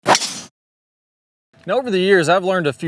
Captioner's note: logo swishing